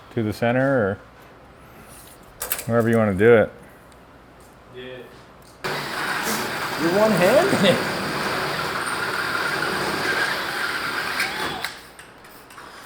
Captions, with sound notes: to the center or wherever you want to do it. (drill whirring)